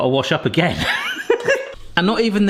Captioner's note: laughing